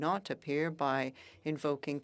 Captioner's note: speaking French